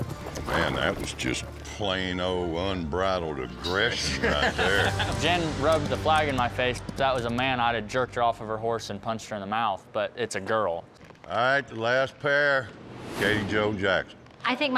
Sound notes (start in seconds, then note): 4.0 laughs